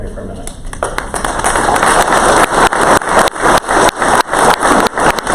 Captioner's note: crowd applause